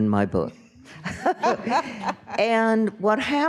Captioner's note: panel laughing